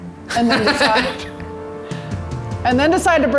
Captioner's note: laughs